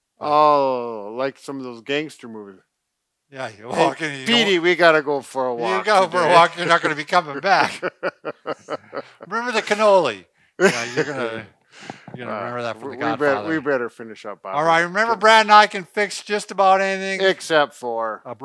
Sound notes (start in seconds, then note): 8.1 laughing